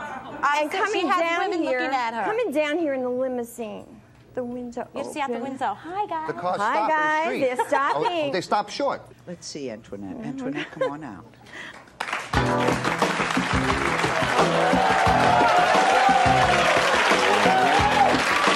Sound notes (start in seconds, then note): 12.3 upbeat music; 12.5 audience cheers